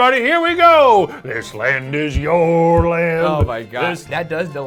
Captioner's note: board thudding